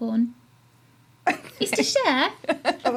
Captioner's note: laughing